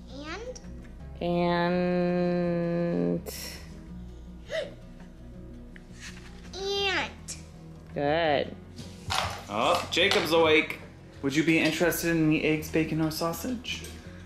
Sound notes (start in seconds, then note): 4.6 gasping